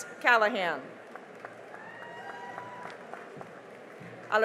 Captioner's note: cheering and applause